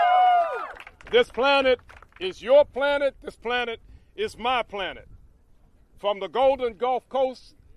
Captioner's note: applause